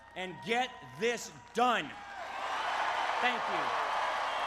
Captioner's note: applause